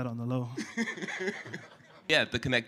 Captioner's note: laughter